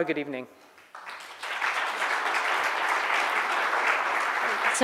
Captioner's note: applause